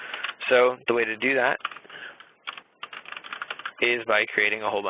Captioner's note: keyboard clicking